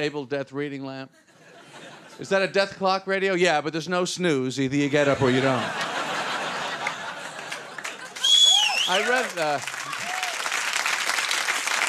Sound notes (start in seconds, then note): 7.2 audience laughing; 8.4 audience applauding